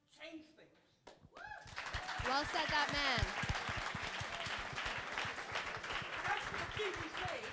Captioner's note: crowd applauding